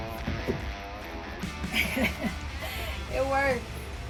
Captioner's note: laughing